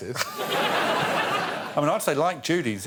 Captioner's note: laughter